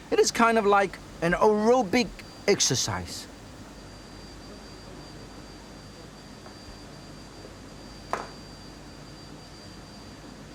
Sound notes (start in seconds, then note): 1.8 quiet chatting in background